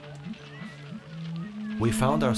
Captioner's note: goats bleating